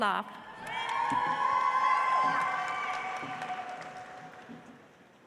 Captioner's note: audience applauds